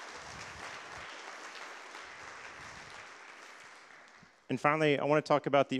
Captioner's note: applause